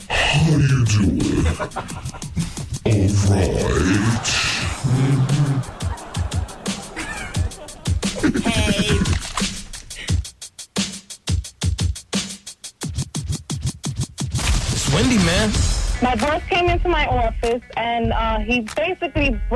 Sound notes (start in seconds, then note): 7.3 laughter